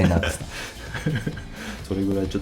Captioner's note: laughs